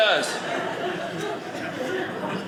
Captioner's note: audience laughing